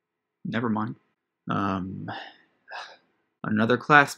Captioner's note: sighs